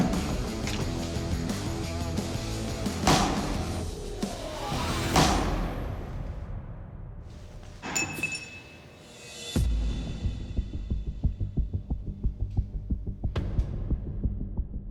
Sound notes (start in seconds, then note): 7.8 metallic clink; 9.2 tense music